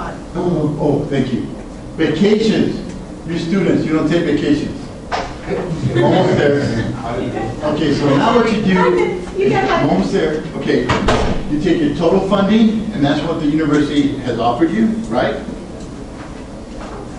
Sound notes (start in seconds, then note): 5.5 class laughs